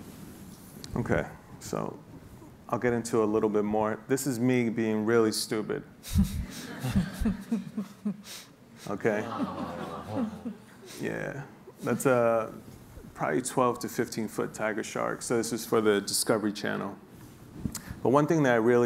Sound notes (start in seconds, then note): 6.5 laughing; 9.3 awing